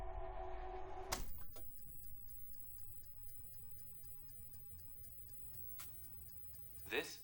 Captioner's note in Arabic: النقر